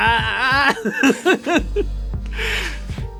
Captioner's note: laughing